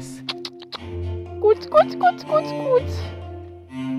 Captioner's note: clucking